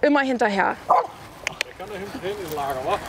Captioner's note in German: Balu bellt